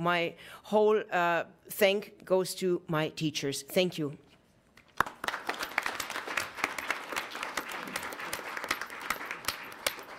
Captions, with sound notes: so my whole thanks goes to my teachers. Thank you. (audience applauds)